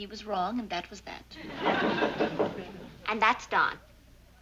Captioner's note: knocking